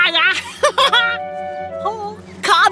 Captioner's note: laughing